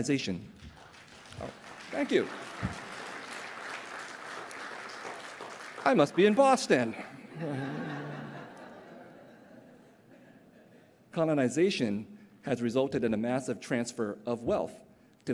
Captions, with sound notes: [APPLAUSE] Thank you. I must be in Boston. [LAUGHTER] Colonization has resulted in a massive transfer of wealth